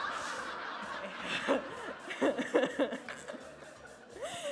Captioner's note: all laughing